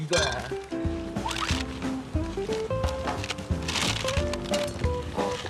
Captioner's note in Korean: 보글 보글